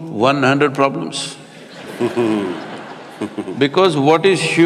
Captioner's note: laughter